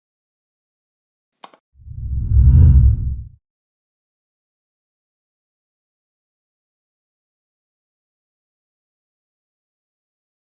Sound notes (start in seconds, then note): 1.4 mouse clicking; 1.8 whooshing